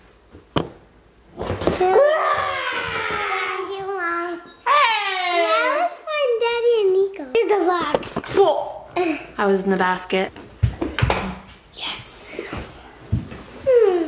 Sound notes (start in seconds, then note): 1.9 screams